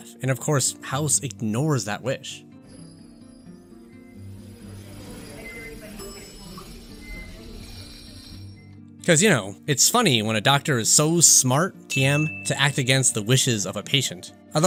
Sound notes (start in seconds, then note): 3.0 loud noises and devices beeping; 11.9 ding